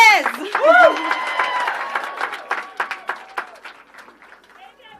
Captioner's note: applause